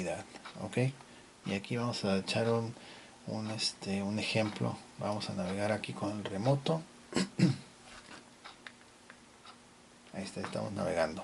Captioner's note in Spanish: carraspeo